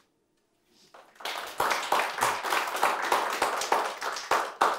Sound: audience applauding

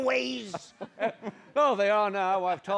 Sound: Moses laughs

